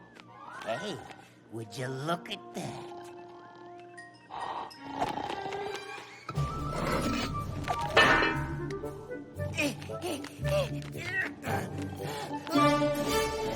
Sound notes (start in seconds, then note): 3.1 snoring; 7.8 helmet clanging; 9.3 grunting